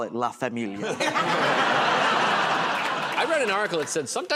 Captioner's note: laughter